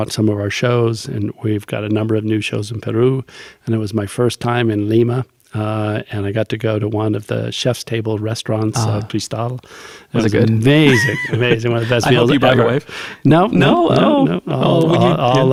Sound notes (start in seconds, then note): 13.6 laughs